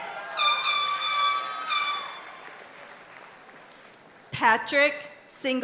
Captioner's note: party horn blaring